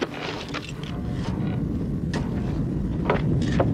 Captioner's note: rumbling